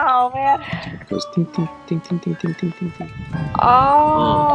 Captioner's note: imitating rain